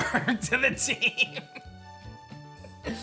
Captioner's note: giggles